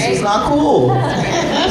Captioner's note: laughter